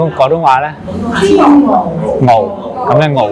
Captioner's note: Mandarin; 普通話